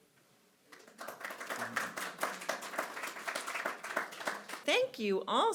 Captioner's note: audience clapping